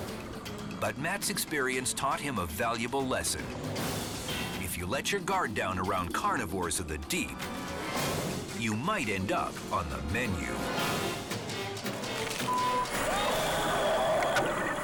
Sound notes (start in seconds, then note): 12.1 eel bites; 12.4 beep